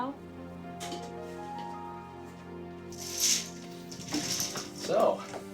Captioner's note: bead curtain clatters